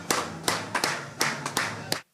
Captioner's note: applause